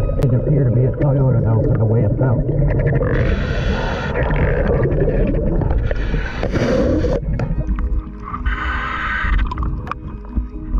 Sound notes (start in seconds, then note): 2.6 mouthpiece hissing; 2.6 water bubbling